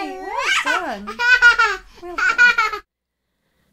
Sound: laughs

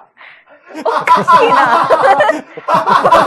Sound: laughs

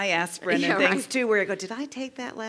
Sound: laugh

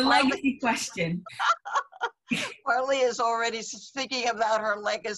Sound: laughs

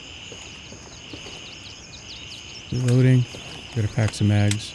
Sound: birds chirping

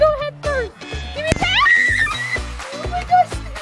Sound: screaming

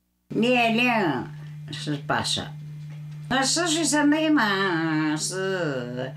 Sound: speaking in foreign language

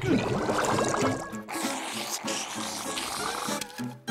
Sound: slurping

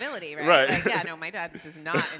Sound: laughing; laughs

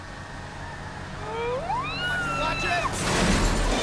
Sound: screeching; metal crashing; glass breaking

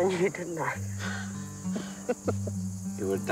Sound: chuckles

